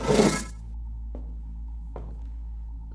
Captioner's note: door whooshes open; footsteps